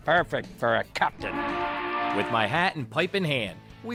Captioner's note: boat horn blaring